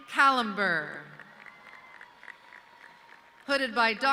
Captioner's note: audience cheering